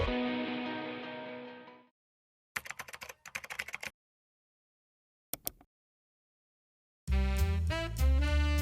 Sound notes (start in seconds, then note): 2.6 keyboard clacking; 5.3 mouse clicks; 7.1 lively music